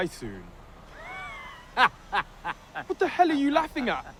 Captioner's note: laughs